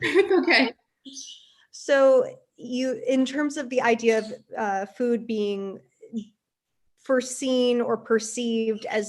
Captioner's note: laughs